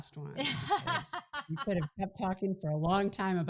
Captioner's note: laughing